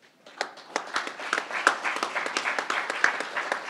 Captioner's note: crowd applauding